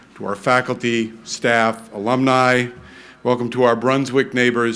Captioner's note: none